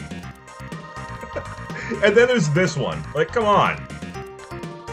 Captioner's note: shaming laughter